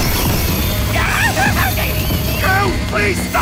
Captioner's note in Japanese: 悲鳴